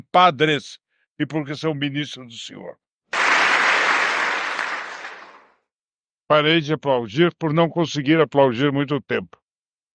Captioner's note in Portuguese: aplausos